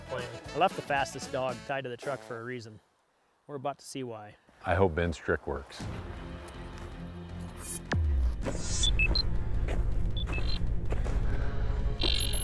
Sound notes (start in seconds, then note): 9.1 computer beeps